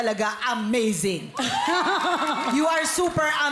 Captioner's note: cheering; melai chuckles